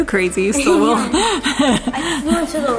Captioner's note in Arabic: الأم تضحك